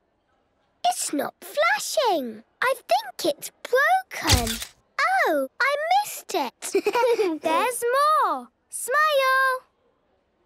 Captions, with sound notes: - It's not flashing! I think it's broken. - (camera clicks) - Oh! I missed it. - (giggling) There's more! Smile!